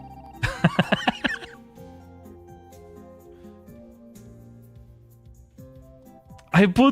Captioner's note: laughter